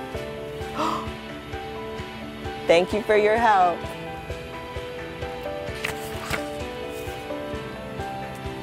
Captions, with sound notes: [ GASPING ] THANK YOU FOR YOUR HELP.